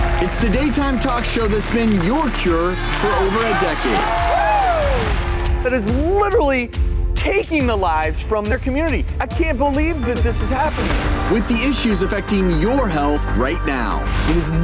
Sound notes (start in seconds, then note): 0.0 cheering; 3.7 clapping and cheering